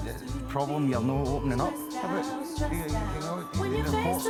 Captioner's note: voice fades out